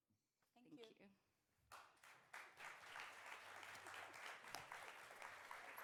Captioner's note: clapping